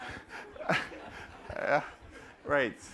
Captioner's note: laughter